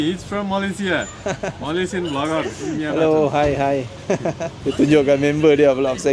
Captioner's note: laugh; speaking Nepali